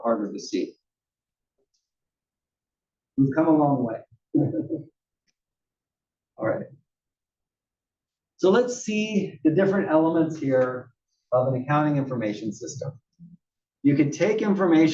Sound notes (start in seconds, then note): 4.3 laugh